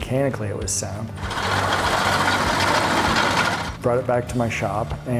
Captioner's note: machine running